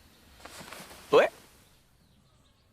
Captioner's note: slurred